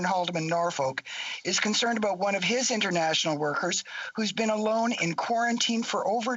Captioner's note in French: voix de l'interprète